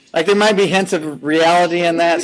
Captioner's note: laughing